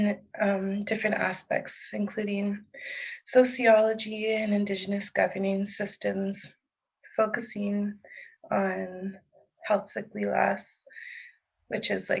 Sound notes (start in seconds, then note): 8.3 speaking in Heiltsuk